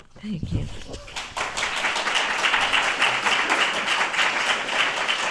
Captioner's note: applause